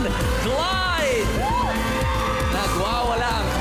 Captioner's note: audience cheering